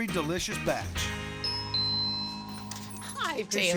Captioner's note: door bell